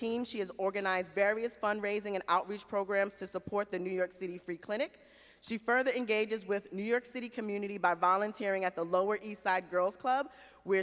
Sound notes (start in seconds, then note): none